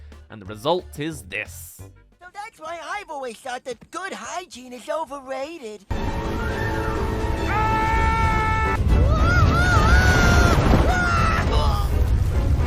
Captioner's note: screaming